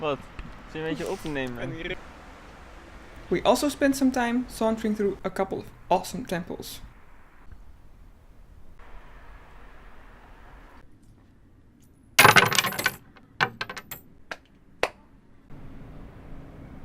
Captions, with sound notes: What? You're filming me, around you?!? Basterd. We also spent some time sauntering through a couple awesome temples. [Coins clinking with great ferocity] [Lonesome coin clinking courageously] [Clappady clap]